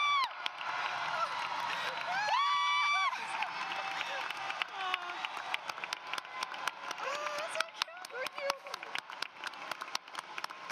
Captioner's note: applause